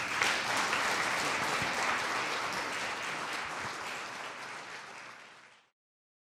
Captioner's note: applause